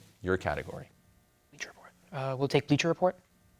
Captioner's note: whispering